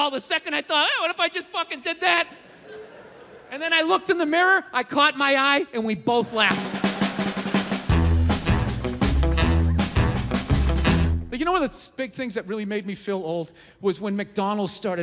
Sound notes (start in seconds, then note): 6.2 crowd laughs; 8.2 upbeat music